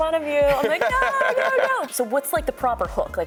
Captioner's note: laughing